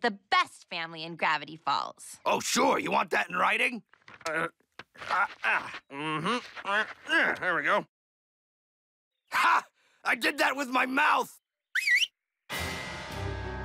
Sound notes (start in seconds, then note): 7.0 grunting; 11.7 whistles